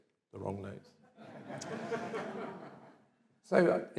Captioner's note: audience laughs